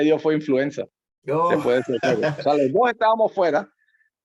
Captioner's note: laugh